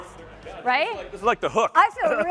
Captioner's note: laughter